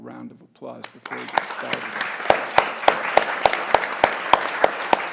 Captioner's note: audience applauding